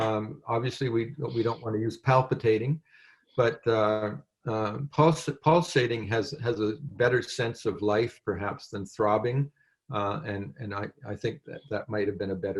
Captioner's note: french